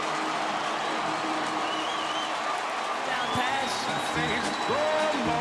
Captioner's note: crowd cheering